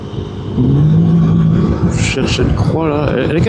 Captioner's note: engine